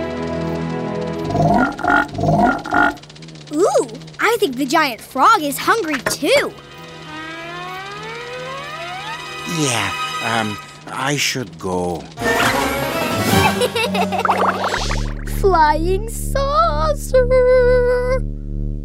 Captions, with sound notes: [croaking] Oh, I think the giant frog is hungry too! Yeah, I should go. [laughing] Flying saucer!